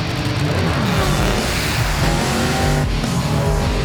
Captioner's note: engines revving